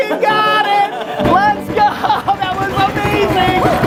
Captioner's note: fists pounding table